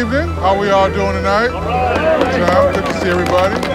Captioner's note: applause